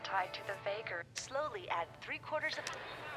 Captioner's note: television; speaking in foreign language